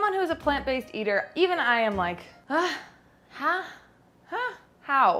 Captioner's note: exasperated grunt